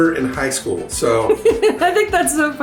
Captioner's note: laughs